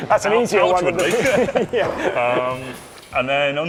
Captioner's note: both chuckling